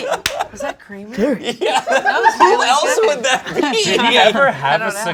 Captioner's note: laughs